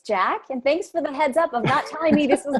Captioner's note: laughs